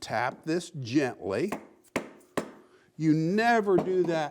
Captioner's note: hammer taps